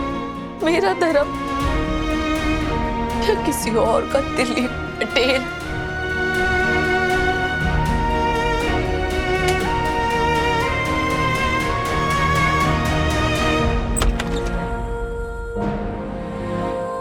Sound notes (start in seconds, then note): 5.7 mellow music; 13.9 door opening